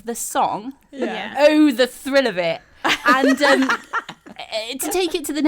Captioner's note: all laugh